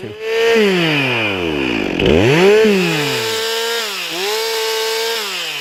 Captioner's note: chainsaw noise